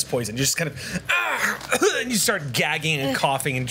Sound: choking sounds

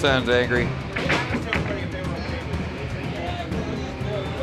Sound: crowd chattering

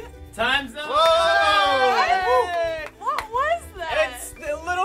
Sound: cheering

